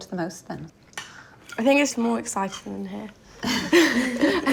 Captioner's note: laughs